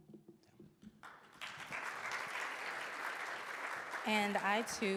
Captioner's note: audience applauds